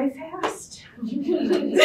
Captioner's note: audience Laughter